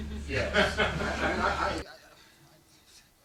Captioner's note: laughter